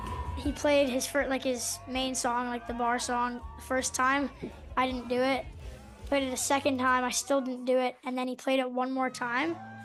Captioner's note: cheers and Applause